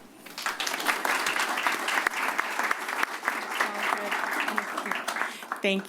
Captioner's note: applause